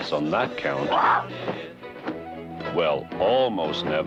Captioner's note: bird squawks